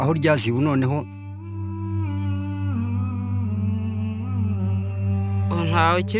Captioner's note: gentle music; singer humming slowly